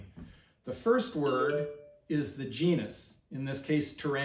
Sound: cell phone chimes

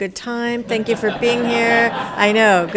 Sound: attendees laughing

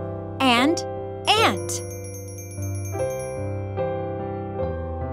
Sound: bell chiming

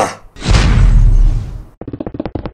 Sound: smash

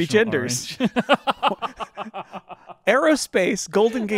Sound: both laughing

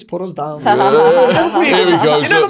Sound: laughing

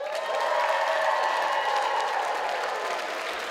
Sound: cheers and applause

